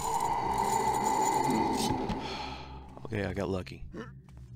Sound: sighs

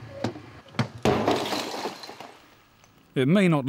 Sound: bang!

